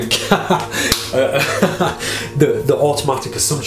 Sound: laughing

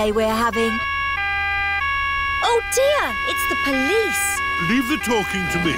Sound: siren wailing

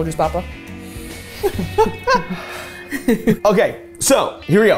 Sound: sniffs and sighs

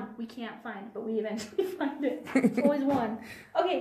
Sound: laughs

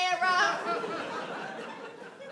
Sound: audience laughs

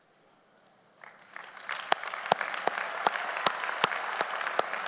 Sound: audience applauds

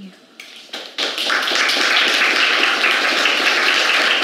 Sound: audience applauds

